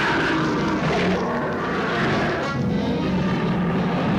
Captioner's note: beasts roaring